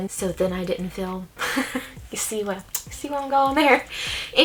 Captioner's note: laughs